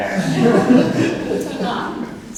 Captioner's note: audience chuckling